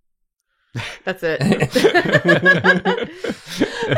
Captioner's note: laughter